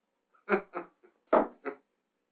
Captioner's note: laughing